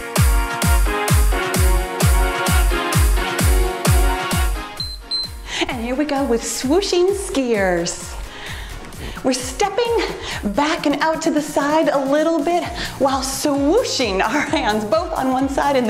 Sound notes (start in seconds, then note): 4.8 timer beeps